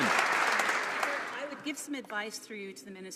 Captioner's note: some Applause